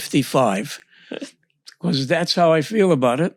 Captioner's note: laughs